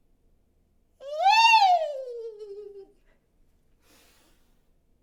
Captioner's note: shouting loudly